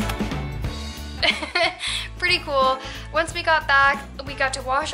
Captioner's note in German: Gelächter